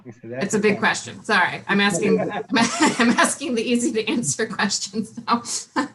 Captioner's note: laughing